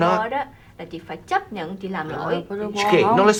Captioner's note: speaking vietnamese